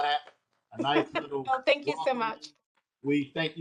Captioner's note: laughter